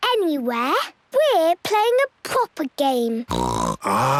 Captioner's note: snorts